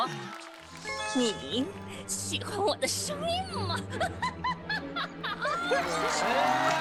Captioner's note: Witch voice